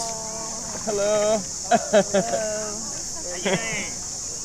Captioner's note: laughs